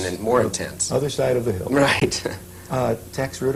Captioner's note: laughs